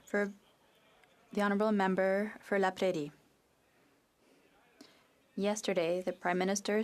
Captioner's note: speaking French